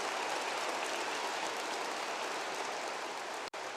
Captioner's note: applause